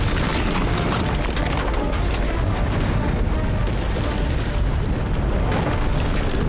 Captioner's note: gunshot